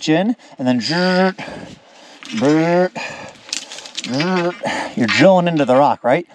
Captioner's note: panting